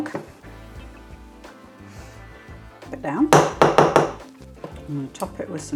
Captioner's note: bang bang bang